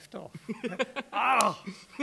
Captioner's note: laughs